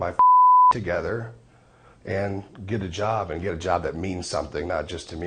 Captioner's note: beep